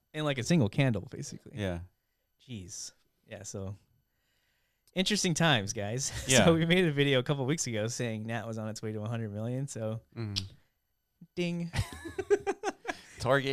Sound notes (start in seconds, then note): 10.2 kissing; 11.8 laughing